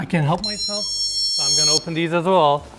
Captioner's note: alarm beeping